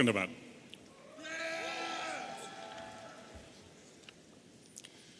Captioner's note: audience cheering